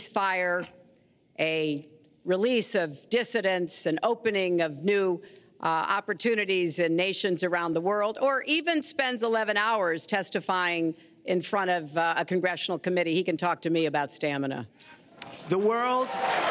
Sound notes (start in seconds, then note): 15.5 applause